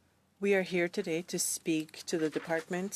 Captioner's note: speaking in French